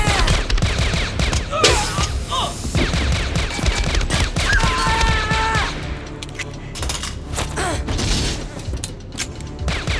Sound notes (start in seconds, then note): 4.6 John screams